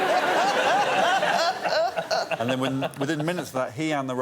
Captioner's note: laughter